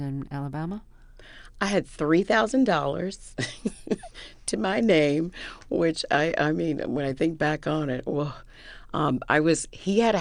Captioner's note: laughter